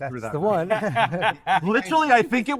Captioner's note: all laughing